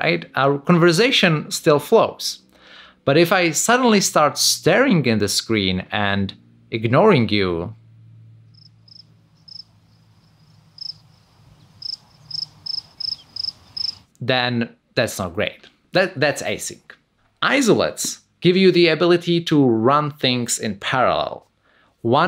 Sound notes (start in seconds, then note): 8.4 crickets chirping